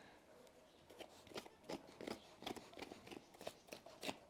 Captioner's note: sound of scraping the hoof